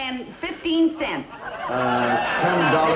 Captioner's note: audience laughs